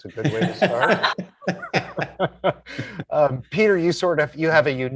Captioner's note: all laughing